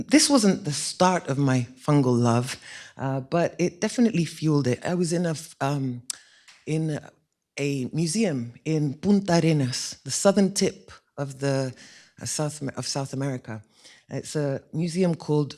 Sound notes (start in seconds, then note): none